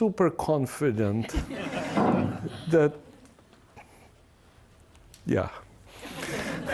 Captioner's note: laughter